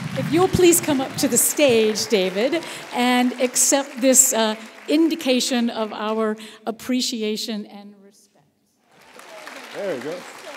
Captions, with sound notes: If you please come up to the stage, David, and accept this indication of our appreciation and respect. [APPLAUSE]